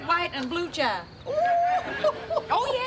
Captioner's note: laughing